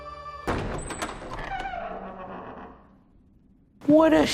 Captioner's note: door creaks open